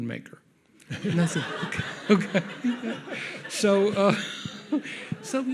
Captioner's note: audience laughs